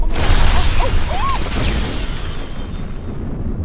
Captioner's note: explosion; gasps